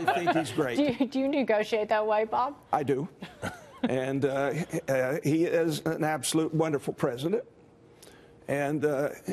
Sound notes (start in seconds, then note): 3.2 laughter